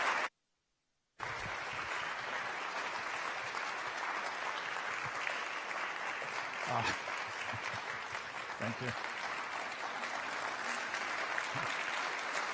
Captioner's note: applause